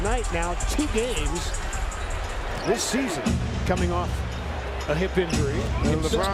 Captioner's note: cheers and applause